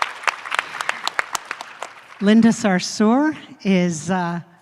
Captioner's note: applause